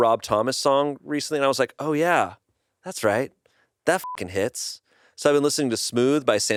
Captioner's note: beep